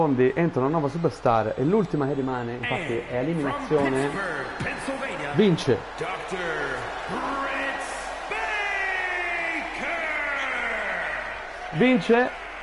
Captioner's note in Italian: Applauso